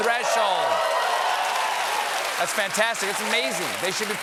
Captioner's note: cheers and applause